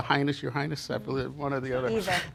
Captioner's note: laughs